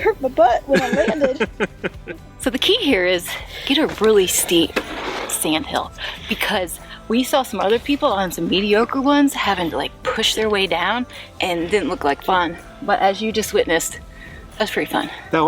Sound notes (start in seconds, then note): 0.7 laughing